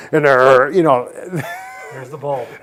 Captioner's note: laughs